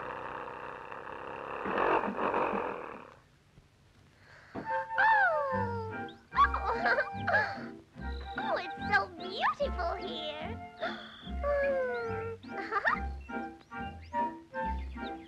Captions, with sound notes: [Birds Chipping] Oh, it's so beautiful here. Hmm. Ha-ha.